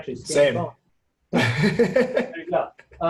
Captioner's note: laughing